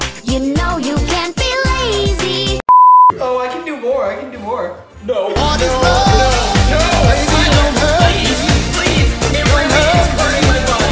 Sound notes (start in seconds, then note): 2.6 beep